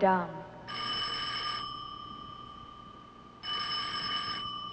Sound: phone ringing

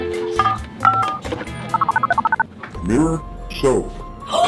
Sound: phone dialing

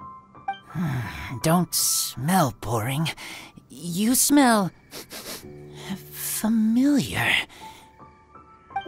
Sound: sniff

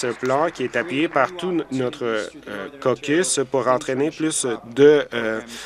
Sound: applause

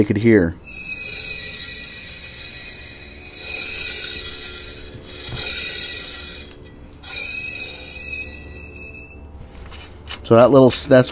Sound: metal scratching metal sound

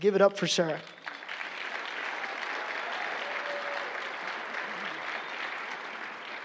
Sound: applause

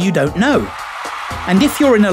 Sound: crowds cheering

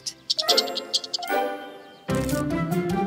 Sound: squirrel chirping; playful music

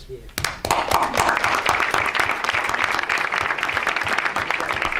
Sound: audience applauds

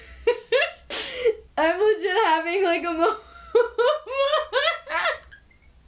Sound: giggles

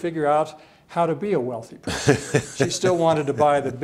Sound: chuckles

